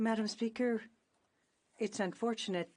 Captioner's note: speaking in French